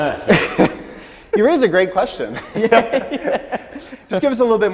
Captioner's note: laughs